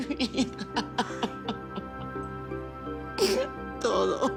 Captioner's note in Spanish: Sollozos